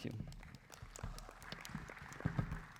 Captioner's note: applause